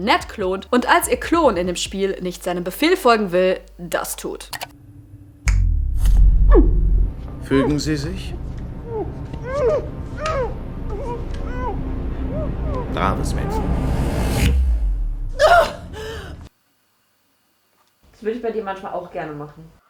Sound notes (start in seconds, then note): 13.3 shocked reaction